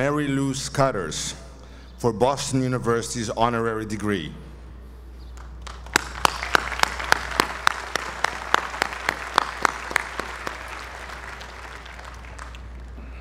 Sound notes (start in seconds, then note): 5.6 applause